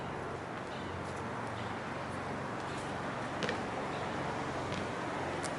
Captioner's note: traffic humming